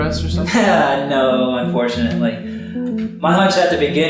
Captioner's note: chuckles